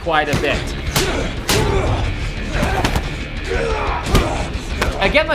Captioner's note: men grunting